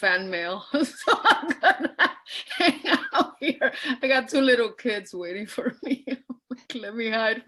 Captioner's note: laughs